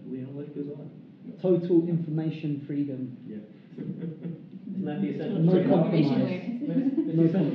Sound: laughing

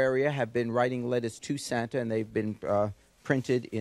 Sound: none

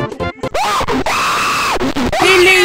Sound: screaming

